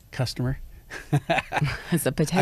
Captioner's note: laughs